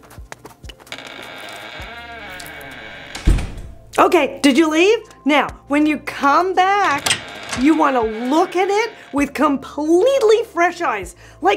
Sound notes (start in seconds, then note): 0.0 steps crunching; 0.9 door creaking; 1.9 door slams